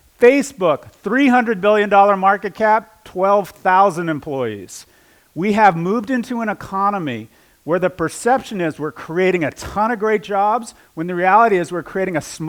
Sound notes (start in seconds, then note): none